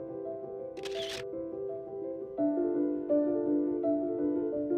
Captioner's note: camera clicks